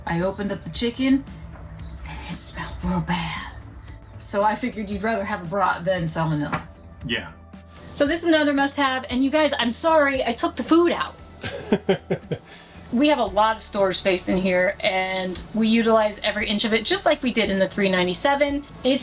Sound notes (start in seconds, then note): 11.4 laughs